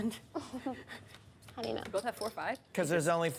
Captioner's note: laughs